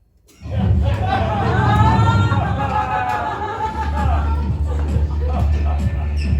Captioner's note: universe shifting sound; dance Music